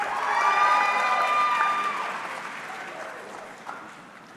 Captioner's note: audience cheering